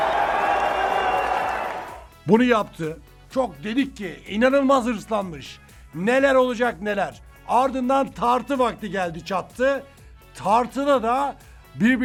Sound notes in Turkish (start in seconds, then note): 0.0 coşkulu tezahürat